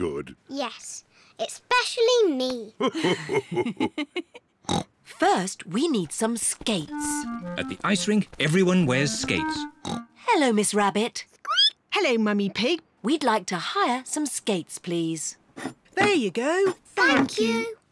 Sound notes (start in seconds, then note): 2.8 laughs; 2.8 laughs and snorts; 9.5 snorts; 11.2 squeaks